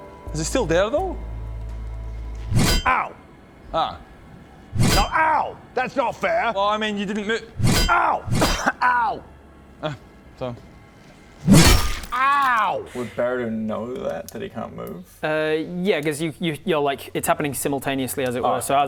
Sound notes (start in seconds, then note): 2.5 bonk; 4.7 boof; 7.6 clunk